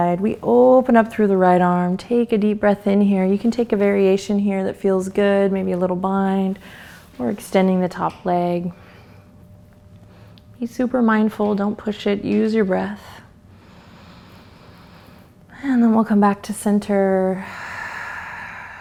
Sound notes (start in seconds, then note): 13.6 inhales; 17.4 exhales